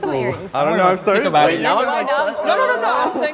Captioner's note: group chattering